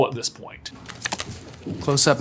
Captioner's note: card clacking